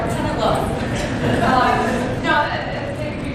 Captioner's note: laughter